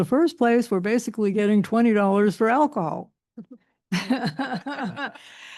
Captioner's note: chuckles